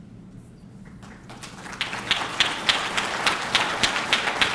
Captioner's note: audience clapping